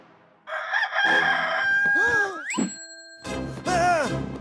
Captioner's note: crowing; shouting